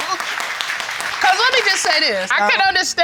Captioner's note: audience applauding